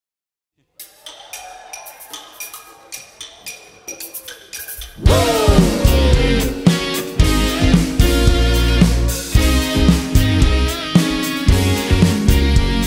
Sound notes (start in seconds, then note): 0.9 upbeat music; 2.1 crowd cheering